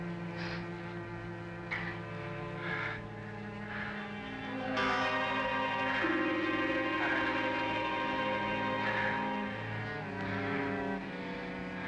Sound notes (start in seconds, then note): none